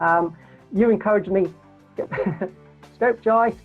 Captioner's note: laughs